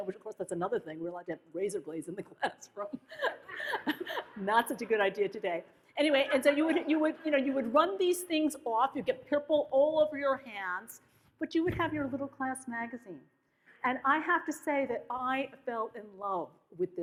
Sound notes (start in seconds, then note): 3.0 laughs; 6.3 audience laughs